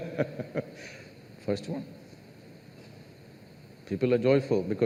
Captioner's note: laughs